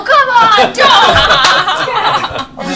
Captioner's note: all laugh